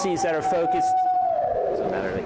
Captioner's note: distant shouting